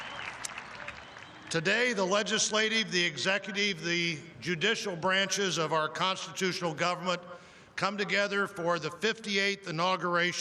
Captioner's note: cheering; applause